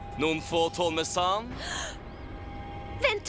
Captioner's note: gasps